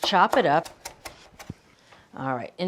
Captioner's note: knife thudding